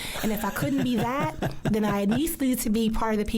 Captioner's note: laughs